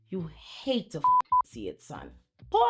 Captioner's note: beep